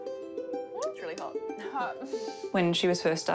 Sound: chuckles

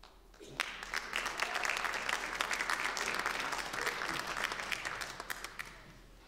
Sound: applause

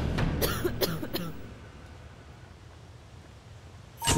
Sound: dramatic music; coughing

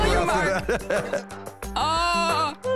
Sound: laughs

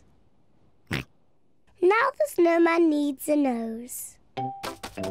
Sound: snorts

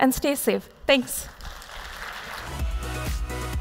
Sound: applause

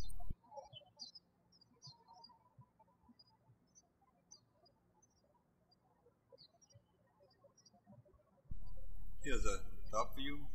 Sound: bird chirping

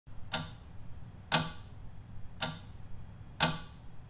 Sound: clock ticking

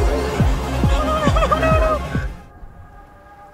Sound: crying

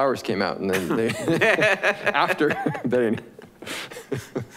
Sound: all laughing

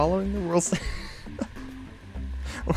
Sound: giggle; giggles

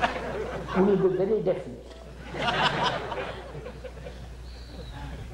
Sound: laughter

